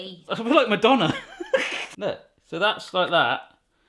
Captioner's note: laughing